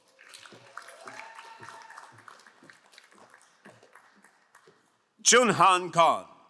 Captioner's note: crowd cheering and applauding